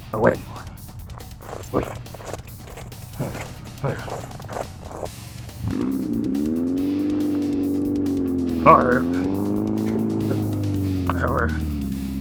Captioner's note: speaking foreign language